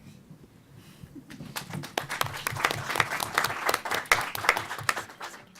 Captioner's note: applause